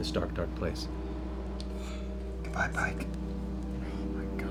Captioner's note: whispering